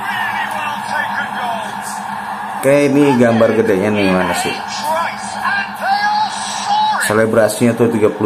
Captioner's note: applause